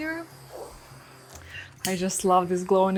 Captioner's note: torch hissing